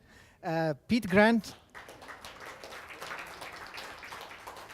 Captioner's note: audience applause